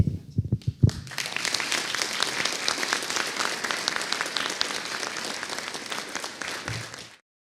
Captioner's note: audience applauding